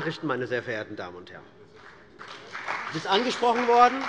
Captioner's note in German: Beifall bei der CDU und dem BÜNDNIS 90/DIE GRÜNEN